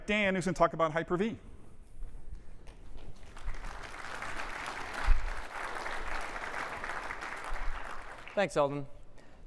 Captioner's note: applause